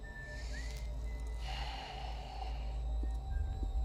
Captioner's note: sighs